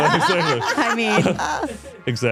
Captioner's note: all laughing